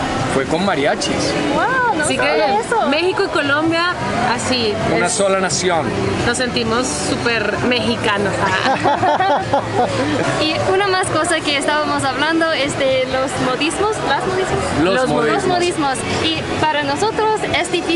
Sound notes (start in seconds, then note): 8.4 laughter